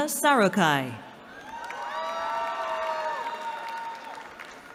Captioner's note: cheering